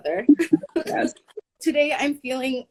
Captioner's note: laughing